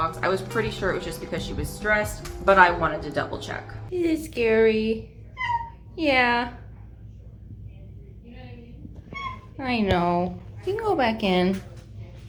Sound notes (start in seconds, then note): 5.4 meow; 9.1 meow